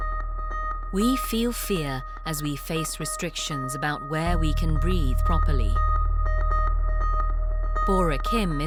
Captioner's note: voiceover